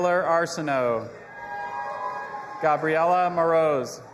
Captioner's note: audience applauding and cheering